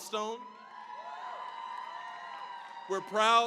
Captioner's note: cheering, applause